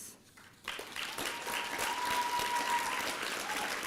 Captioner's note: applause